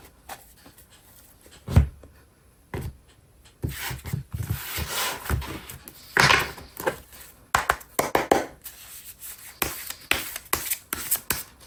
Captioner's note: drawing cards